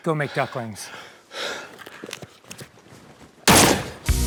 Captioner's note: still panting; shotgun sound effect